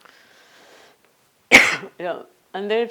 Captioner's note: coughs